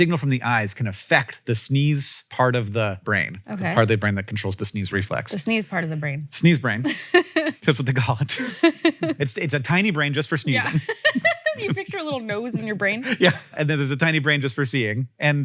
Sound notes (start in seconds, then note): 6.8 Rachel laughs; 10.4 laughs